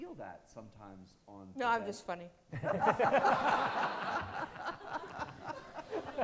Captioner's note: all laughing